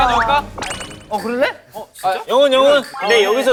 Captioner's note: happy voice